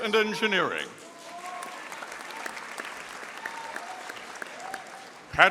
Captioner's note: audience applauding